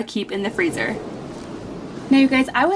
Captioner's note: graphics whoosh